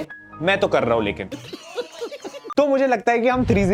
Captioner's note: laughing